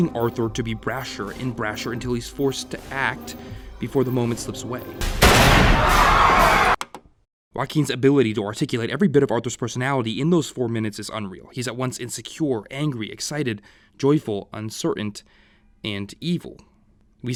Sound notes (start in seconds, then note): 5.0 gunshot; 5.3 people screaming